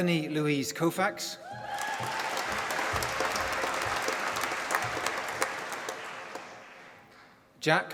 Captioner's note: applause